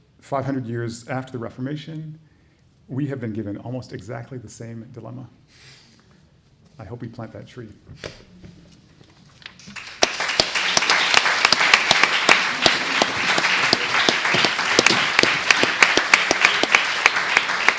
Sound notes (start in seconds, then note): 9.4 applause